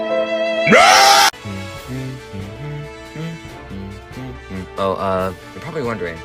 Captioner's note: me humming a very normal tune